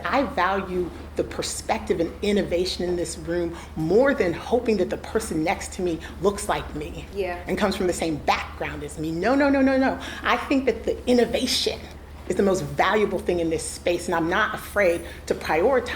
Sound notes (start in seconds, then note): none